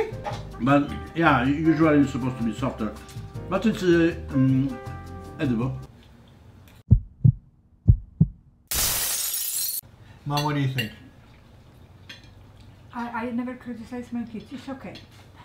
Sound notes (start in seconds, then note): 7.7 heartbeat; 13.2 mumbles